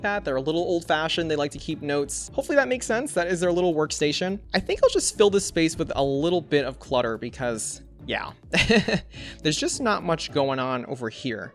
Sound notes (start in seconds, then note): 8.6 laughs